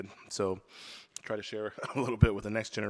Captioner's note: chuckles